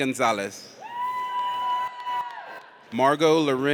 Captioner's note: audience cheers